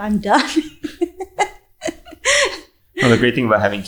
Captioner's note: speaker laughing